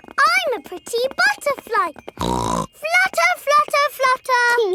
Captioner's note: snorts